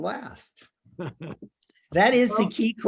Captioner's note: laughs